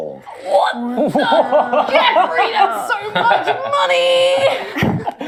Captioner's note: strained